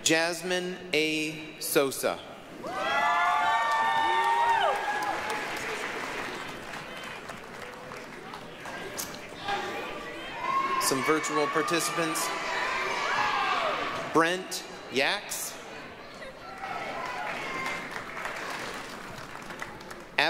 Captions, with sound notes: Jazmine A. Sosa. (applause, cheering) Some virtual participants. Brent Yaks. (applause)